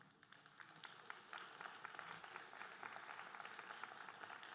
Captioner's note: audience applauding